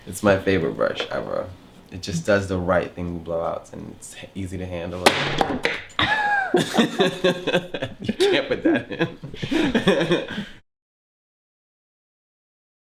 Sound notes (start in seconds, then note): 6.0 laughs